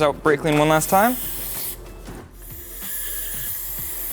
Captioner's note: can spraying